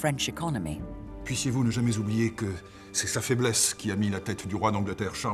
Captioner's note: men speaking in French